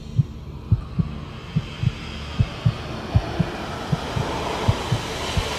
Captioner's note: heart begins to beat faster